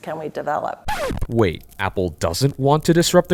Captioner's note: record scratches